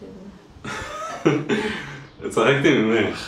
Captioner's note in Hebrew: צחוק